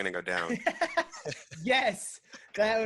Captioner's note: laughing